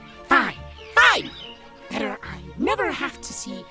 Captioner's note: none